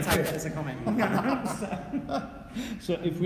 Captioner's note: laughing